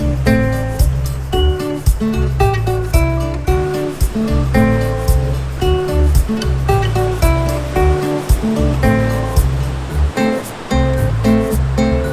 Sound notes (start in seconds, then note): 0.1 chill strumming music; 4.1 waves crashing